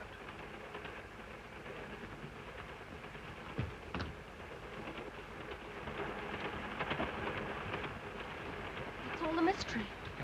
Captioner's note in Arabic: صوت خشخشة القطار